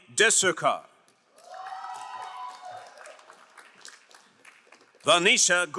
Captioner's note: crowd applauding